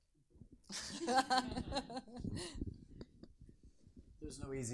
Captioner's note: people laughing